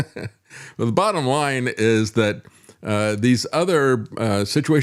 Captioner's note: laughs